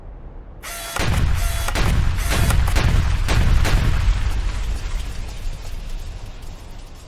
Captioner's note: electronic whirring; footsteps thudding